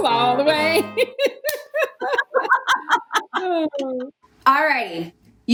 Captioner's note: family laughing